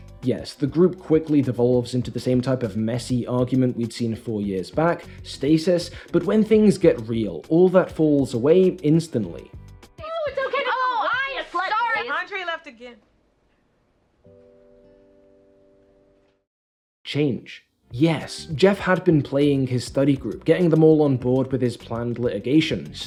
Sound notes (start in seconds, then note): 10.0 group arguing; 15.9 silence